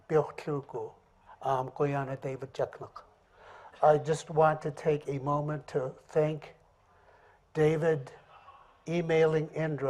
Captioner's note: speaking in another language; speaking English